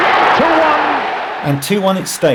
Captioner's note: crowd roaring